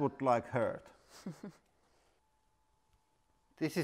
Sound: slightly evil chuckle

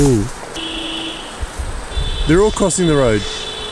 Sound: car horns honking

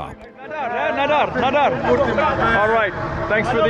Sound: speaks Portuguese

